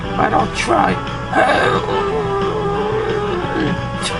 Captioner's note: grunting